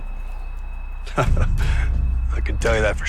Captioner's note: laughs